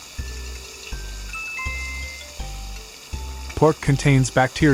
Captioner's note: chime